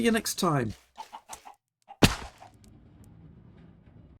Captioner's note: thud